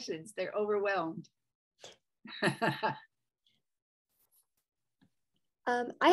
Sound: laughter

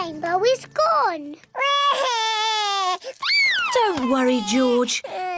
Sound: cries

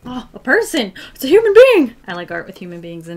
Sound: gasps

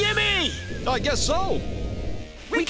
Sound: narrator Voice

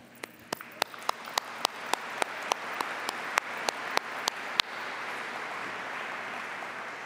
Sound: applause

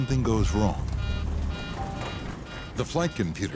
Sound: computer beeps

